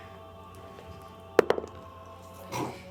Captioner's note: dice roll